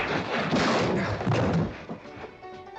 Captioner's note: loud crack & crash; thump